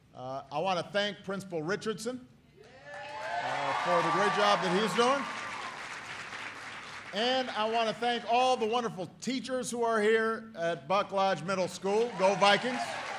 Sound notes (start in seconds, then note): 5.8 applause